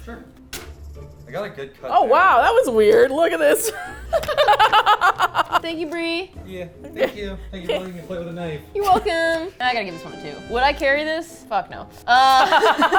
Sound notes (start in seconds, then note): 3.4 laugh; 12.1 both laugh